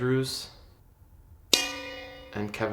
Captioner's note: bell dings